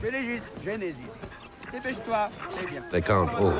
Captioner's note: speaking foreign language